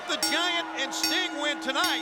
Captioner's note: bell rings